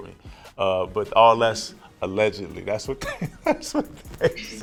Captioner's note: laughs